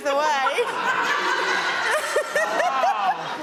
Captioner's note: everyone laughs